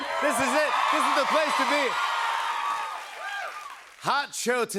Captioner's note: cheers and applause